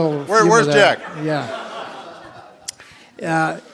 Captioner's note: laughter